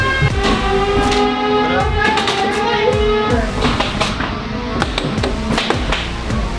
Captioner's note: robots thudding; robots whirring